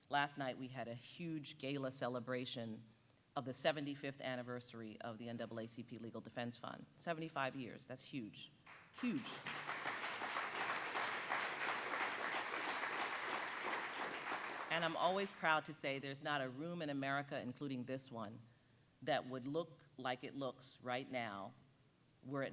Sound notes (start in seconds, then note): 8.7 audience applauding